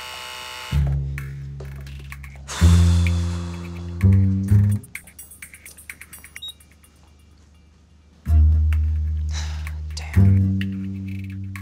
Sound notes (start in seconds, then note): 2.4 sighs; 6.3 beep; 9.2 sighs